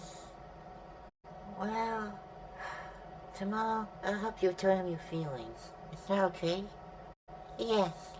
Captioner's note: sigh